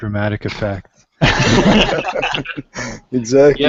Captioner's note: laughter